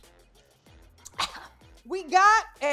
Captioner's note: coughs